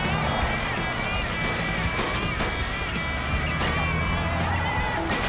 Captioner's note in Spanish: Disparos